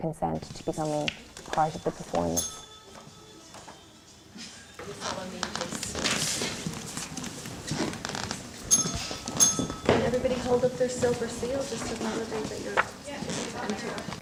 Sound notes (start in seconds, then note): 1.6 bell rings; 8.6 bell rings